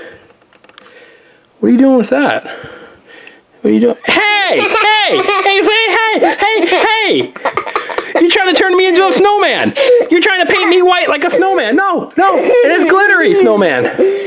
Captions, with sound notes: What are you doing with that? What are you doing? Hey! (assistant laughs) hey! Hey! Hey! You're trying to turn me into a snowman! You're trying to paint me white like a snowman. No, no. It's glittery snowman.